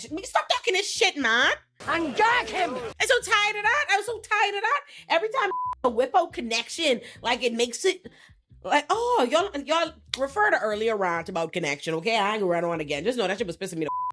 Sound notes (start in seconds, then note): 5.5 beep